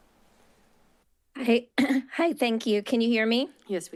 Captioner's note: clears throat